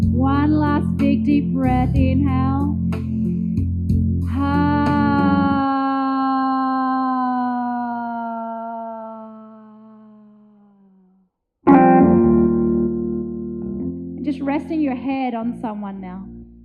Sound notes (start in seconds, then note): 4.5 sighs; 11.7 gentle music